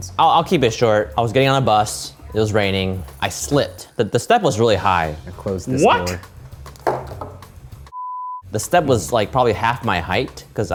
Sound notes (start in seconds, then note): 8.0 beep